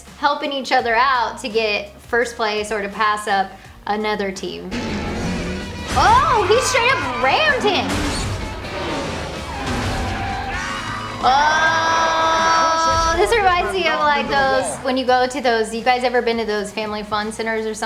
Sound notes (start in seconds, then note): 8.4 cars whirring; 9.8 tires screeching